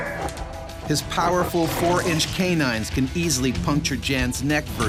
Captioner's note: voiceover